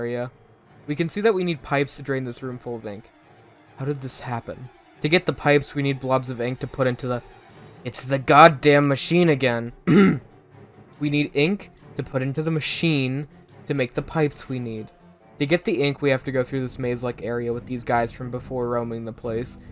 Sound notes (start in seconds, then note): 9.8 clearing throut